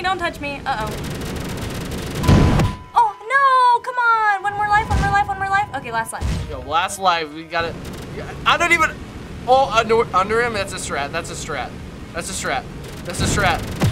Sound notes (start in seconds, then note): 2.6 dinging